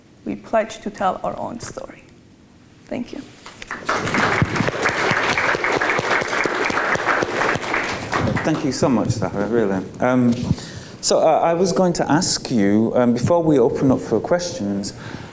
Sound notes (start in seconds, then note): 3.4 audience clapping